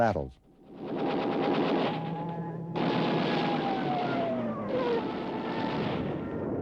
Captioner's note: plane engines roar; gunfire